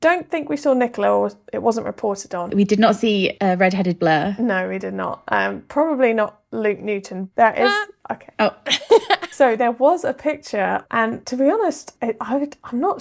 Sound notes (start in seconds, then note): 8.6 laughing